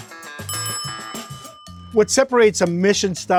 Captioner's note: upbeat music; bell dings